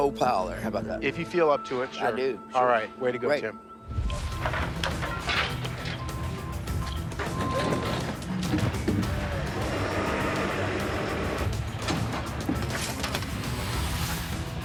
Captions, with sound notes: How 'bout that? - If you feel up to it, sure. - I do. - All right. Way to go, Tim. - Great. (intense music) (trucks revving)